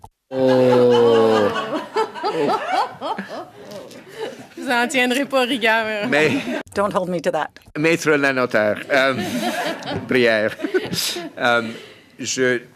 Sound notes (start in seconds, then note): 7.3 laughter